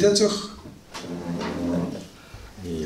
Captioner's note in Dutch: stoel schuift